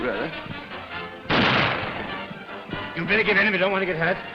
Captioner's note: gun firing